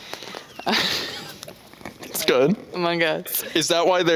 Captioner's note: both laughing